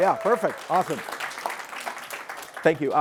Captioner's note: applause